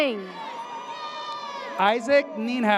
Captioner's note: audience cheers